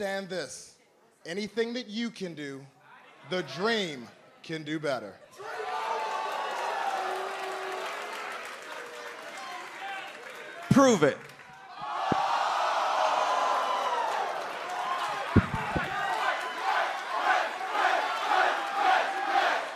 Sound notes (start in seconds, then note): 6.1 crowd cheering; 15.0 crowd chatter; 15.9 crowd cheering